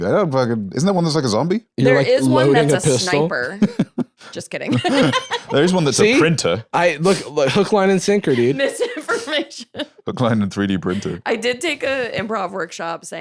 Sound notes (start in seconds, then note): 7.0 laughing